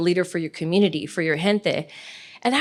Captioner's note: speaks foreign language